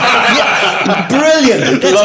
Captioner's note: laughing